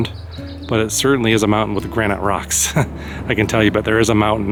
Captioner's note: laugh